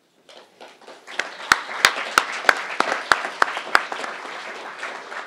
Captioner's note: crowd applauding